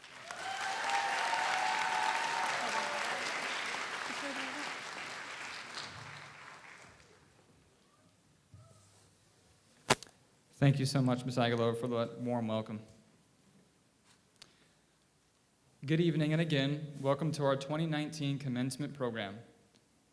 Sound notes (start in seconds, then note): 0.0 audience applauds; 2.0 audience cheers